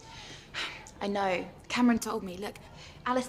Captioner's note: sighs